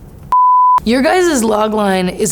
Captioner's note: beeps